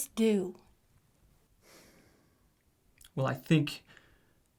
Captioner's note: sighs